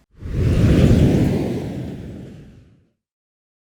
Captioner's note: air whooshing